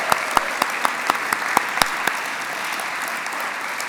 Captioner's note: applause